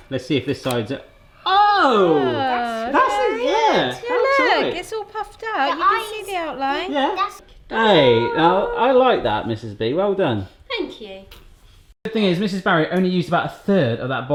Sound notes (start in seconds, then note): 1.4 chatter